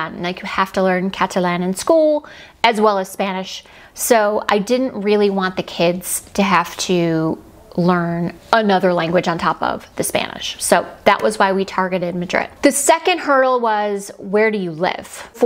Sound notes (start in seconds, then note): none